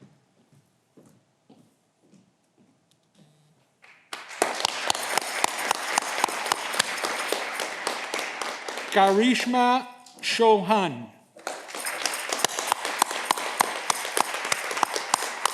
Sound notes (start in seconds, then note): 11.3 audience clapping